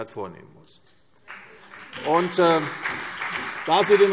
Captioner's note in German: Beifall CDU und BÜNDNIS 90/DIE GRÜNEN